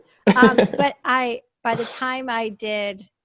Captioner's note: laughs